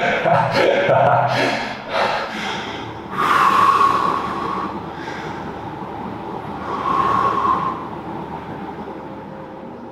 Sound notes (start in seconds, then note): 0.0 laughing; 3.2 slow exhales